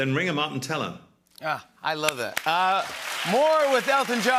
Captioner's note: cheers and applause